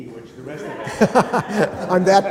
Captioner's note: laughter